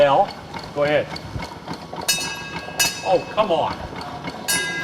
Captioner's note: ding ding; ding Ding Ding